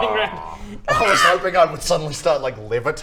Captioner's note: caw!!